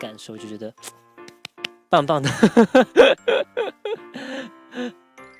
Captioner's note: claps